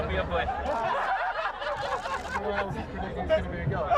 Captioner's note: all laugh